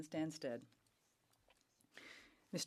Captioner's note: speaking French